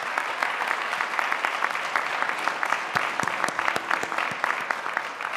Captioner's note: audience applauding